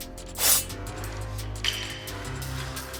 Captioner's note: upbeat dramatic music; sword swishes; upbeat dramatic music continues